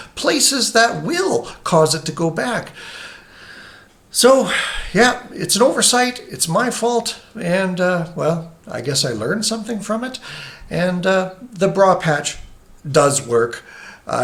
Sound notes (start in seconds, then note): 4.5 inhales